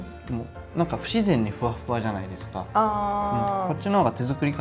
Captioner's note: none